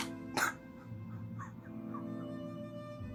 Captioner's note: Ludlow sobs